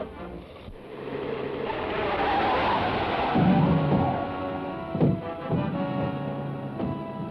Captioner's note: tires squeal; dramatic orchestral music